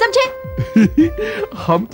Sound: giggles

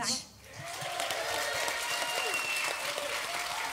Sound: applause

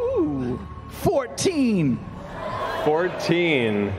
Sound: yells

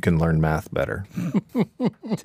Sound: laughs

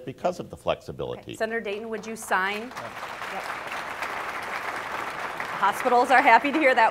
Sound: audience applauds Horner

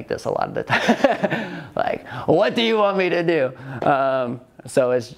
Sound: laughs

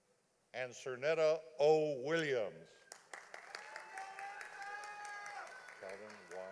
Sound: audience applauding

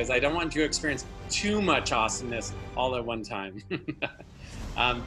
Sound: laughing

